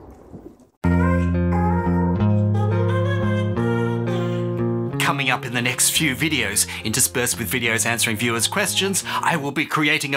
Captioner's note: thunder